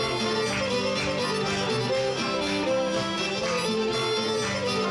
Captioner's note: audience clapping